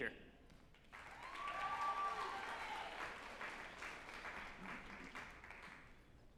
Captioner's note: group applauding and cheering